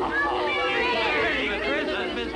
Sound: everyone shouting

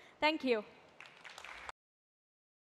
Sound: tepuk tangan

